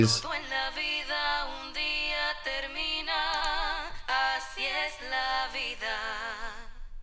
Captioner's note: vocals simulate telephone audio